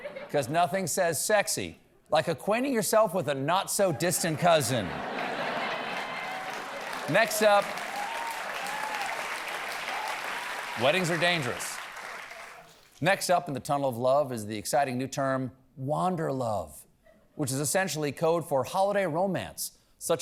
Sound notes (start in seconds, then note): 5.0 cheers and applause; 6.4 laughter